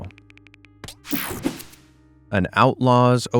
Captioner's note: graphic whooshing